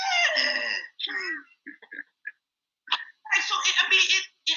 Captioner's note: all chuckles